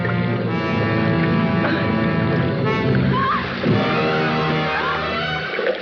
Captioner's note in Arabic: صوت الماء - تلهث المرأة وتصرخ